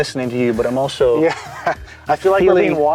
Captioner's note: laughs